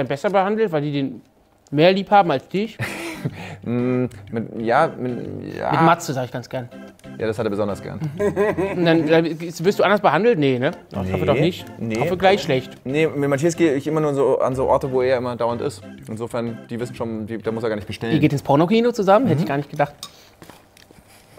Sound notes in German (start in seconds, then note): 2.8 Lachen; 8.0 Lachen